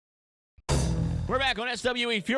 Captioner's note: logo thuds